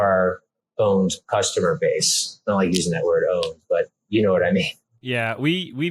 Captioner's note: laughs